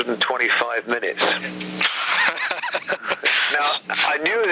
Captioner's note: host laughs